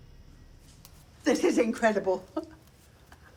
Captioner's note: chuckles